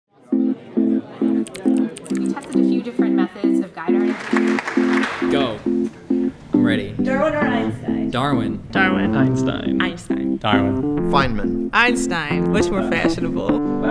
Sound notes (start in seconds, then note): 1.4 typing; 4.0 applause